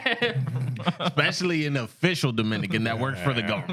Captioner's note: laughter